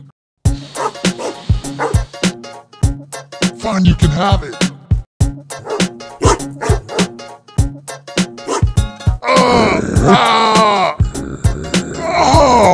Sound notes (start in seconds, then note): 0.8 sniffing; 6.2 dog barking; 9.2 yelling and growling